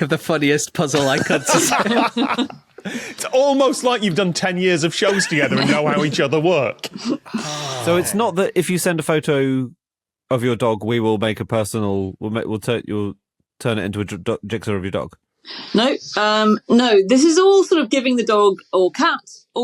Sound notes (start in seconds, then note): 0.9 laugh; 5.0 laugh